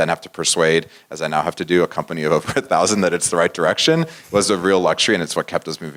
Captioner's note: laugh